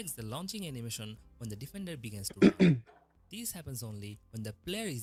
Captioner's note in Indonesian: berdehem